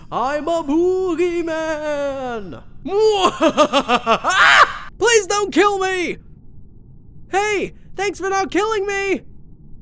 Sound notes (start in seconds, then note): 3.0 yelp; 3.2 evil laugh